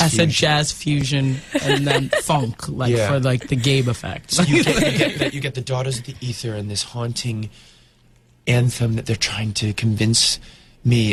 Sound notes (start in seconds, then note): 2.7 interviewer laughs